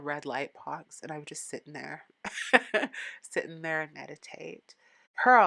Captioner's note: laughing